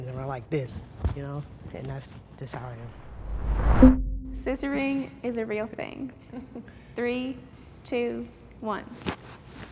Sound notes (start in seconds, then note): 6.2 participant chuckles